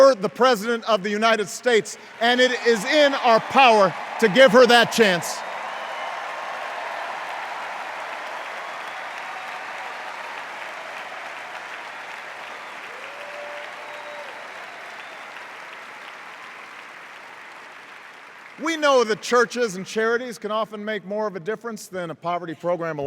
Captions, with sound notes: or the President of the United States – and it is in our power to give her that chance. [EXTENDED CHEERS AND APPLAUSE] We know that churches and charities can often make more of a difference than a poverty program